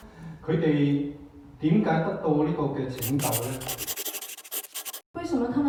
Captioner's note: Cantonese